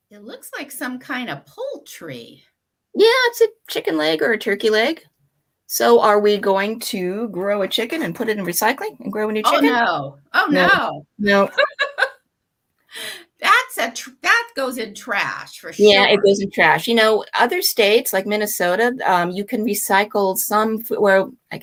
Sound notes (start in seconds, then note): 11.4 laughing